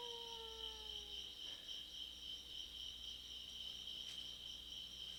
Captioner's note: none